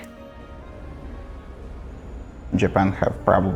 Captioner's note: night city noise